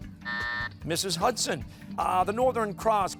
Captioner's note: buzzer sounding